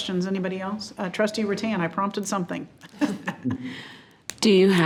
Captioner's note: chuckles